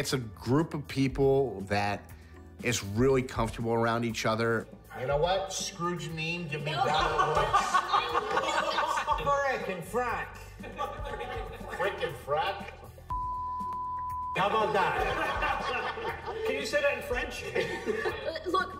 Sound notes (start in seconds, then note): 6.6 all laughing; 13.1 beep; 14.5 all laughing